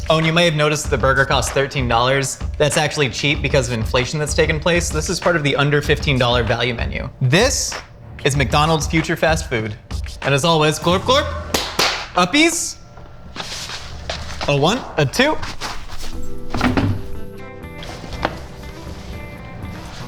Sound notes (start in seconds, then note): 11.5 claps; 17.0 soft music